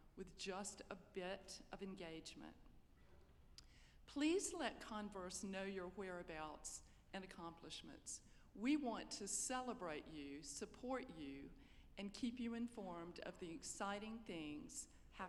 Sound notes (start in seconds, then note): none